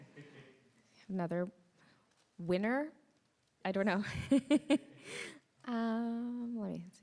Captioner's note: chuckles